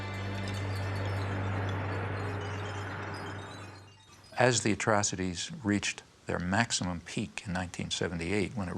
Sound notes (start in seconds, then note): 0.0 somber music; 0.5 garbage clinking